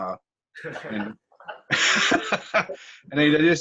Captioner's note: laughter